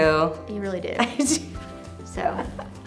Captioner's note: laughs